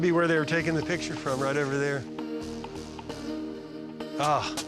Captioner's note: chuckles